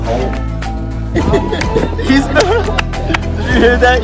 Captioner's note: laughter